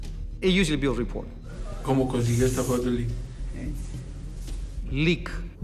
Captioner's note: speaking Spanish